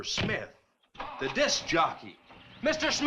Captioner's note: engine cranks